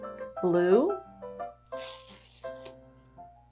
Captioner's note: card ripping